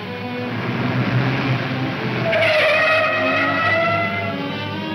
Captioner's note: tires screeching